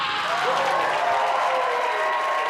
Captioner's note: yells